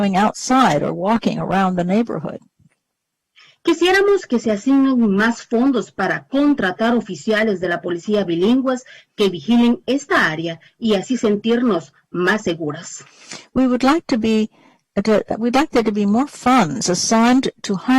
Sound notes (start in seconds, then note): 7.1 speaking spanish